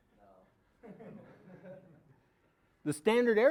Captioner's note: audience laughing